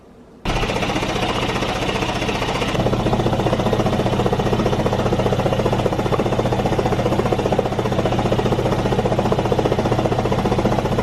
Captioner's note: vest machine vibrating